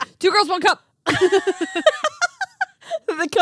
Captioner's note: laughing